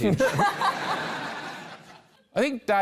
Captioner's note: laughter